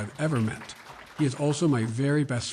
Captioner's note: applause